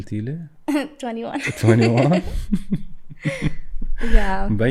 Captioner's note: laughter